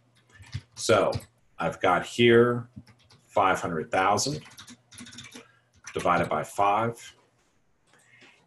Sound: typing

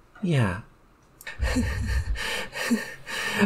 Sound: breathing heavily, sensually, sounds increasingly unstable

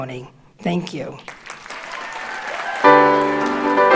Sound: audience cheers and applauds

